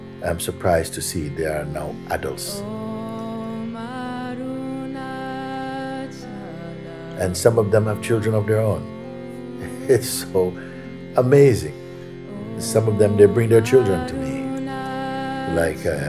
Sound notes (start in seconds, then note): 9.6 lacht